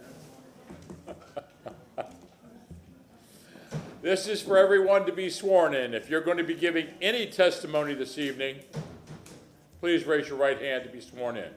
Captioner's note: laughter